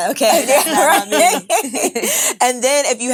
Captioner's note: all laugh